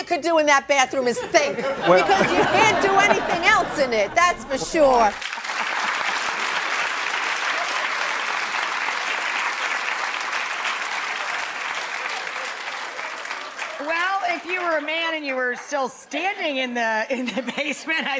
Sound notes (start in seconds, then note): 5.3 audience applauds